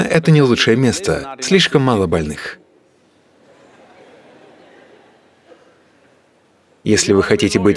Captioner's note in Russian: смех